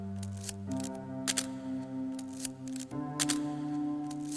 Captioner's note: camera clicks